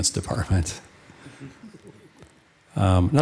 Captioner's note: audience chuckling